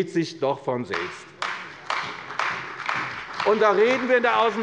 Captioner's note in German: Beifall bei der CDU